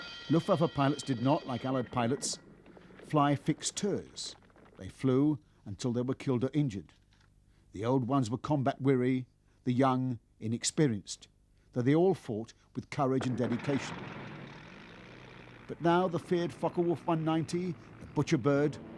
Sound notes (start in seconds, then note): 0.0 bells ringing; 13.4 revs